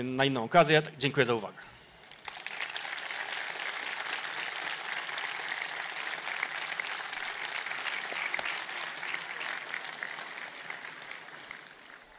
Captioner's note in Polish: oklaski